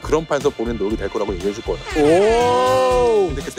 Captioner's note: airhorn sound effect